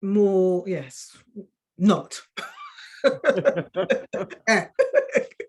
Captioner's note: women laughing